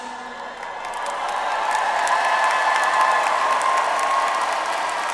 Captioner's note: audience applauds